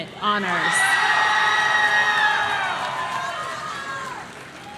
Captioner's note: audience cheering